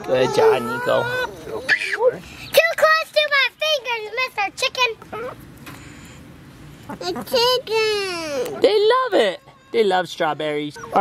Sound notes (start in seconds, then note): 6.7 chickens clucking